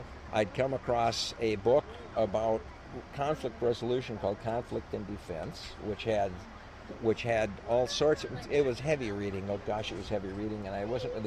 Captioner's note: coughs